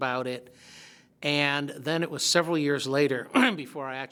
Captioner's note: clears throat